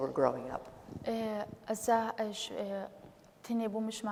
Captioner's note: speaking kurdish